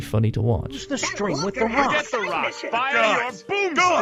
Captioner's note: general overlapping chatter